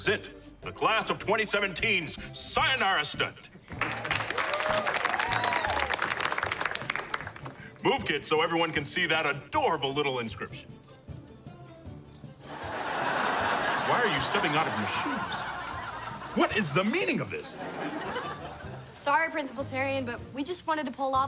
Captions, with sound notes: the class of 2017's sayonara stunt. [clapping] Move, kids, so everyone can see that adorable little inscription. Why are you stepping out of your shoes? What is the meaning of this? Sorry, Principal Tarian, but we just wanted to pull off a stunt